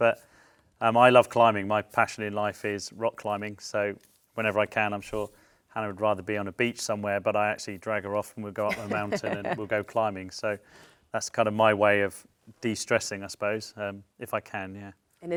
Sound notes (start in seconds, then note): 8.6 laughs